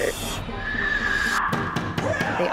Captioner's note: screams